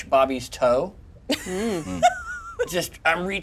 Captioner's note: laughs